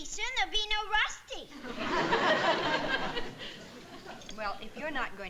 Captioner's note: audience laughing